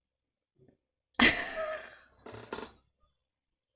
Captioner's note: laughs